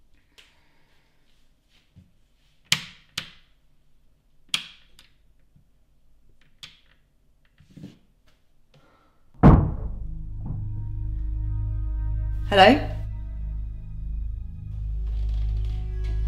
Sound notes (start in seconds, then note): 9.4 bang